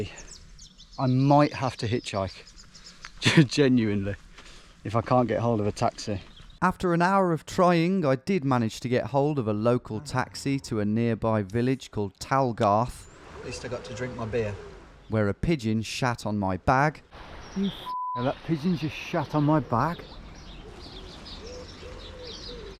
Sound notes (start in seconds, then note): 17.8 beep